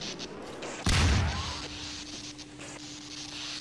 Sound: teleporter explodes

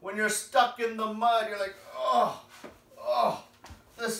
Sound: groaning noises

